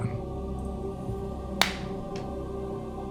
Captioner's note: blows